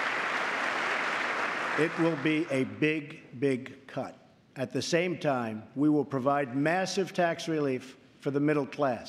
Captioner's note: applause